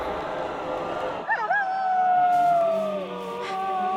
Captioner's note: howling